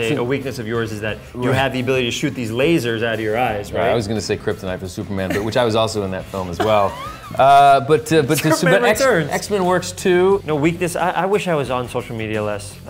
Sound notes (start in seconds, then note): 6.2 laughs